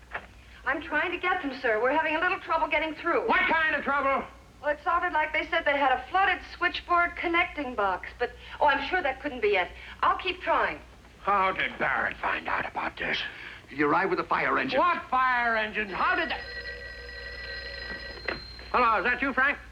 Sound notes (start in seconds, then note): 15.8 phone Rings